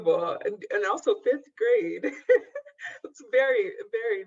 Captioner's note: laughs